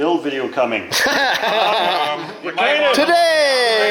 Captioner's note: laughing